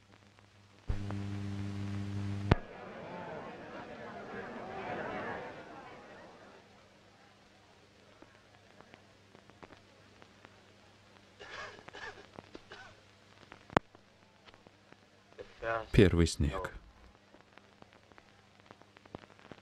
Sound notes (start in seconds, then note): 0.9 buzzing sound; 2.5 crowd chattering; 11.4 coughing